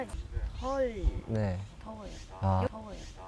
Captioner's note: gulp gulp